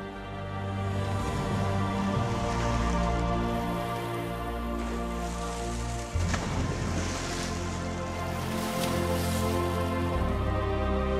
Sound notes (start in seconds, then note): 0.9 majestic music; 5.9 water splashing